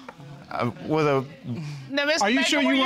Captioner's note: stammers